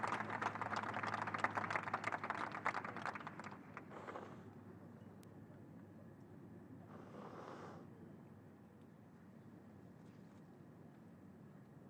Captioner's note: applause